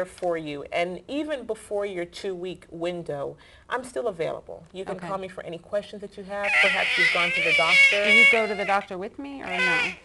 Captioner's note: squeals